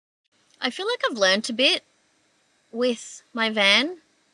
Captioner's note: none